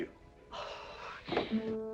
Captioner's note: seething